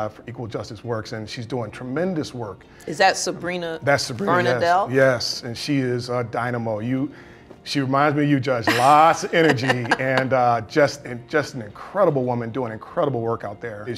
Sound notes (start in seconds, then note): 8.6 judge laughs